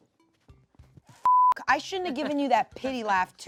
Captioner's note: beep